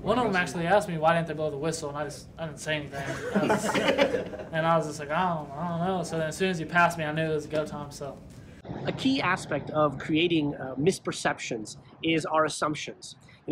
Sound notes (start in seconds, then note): 2.9 group laughing